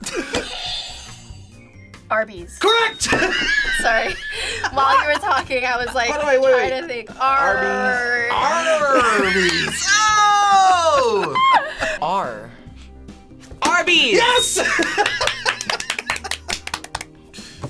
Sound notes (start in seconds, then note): 0.2 buzzer rings; 3.8 laughs; 8.3 group laughs; 14.5 laughs; 14.9 both clapping